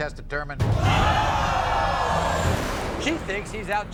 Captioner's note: audience oohs